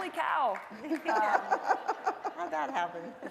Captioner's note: laughing